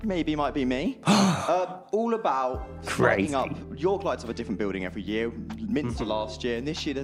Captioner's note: gasps